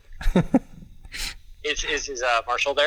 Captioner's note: chuckles